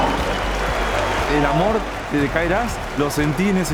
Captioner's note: in Spanish